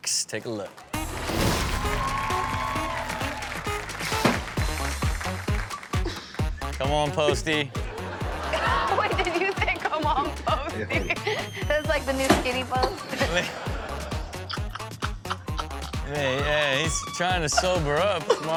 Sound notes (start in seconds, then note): 0.8 audience cheers; 1.4 upbeat music; 7.8 laughs